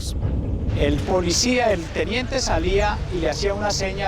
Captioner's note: Spanish spoken audio